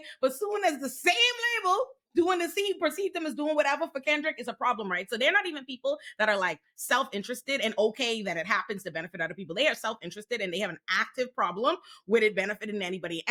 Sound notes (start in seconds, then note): none